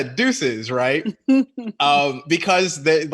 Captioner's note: laughing